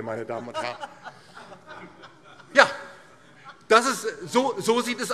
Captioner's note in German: Lachen BÜNDNIS 90/DIE GRÜNEN